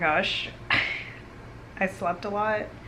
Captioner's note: laugh